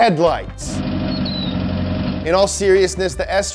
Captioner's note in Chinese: 发动机加速